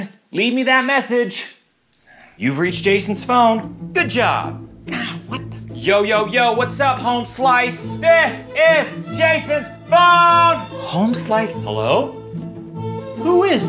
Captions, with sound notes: Leave me that message! You've reached Jason's phone! Good job. No! What? Yo, yo, yo, what's up homeslice? [yelling] This is Jason's phone! Homeslice? Hello?